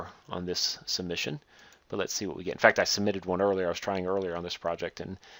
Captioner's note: click